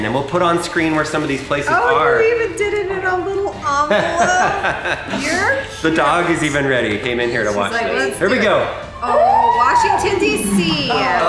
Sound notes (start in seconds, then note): 3.7 laughing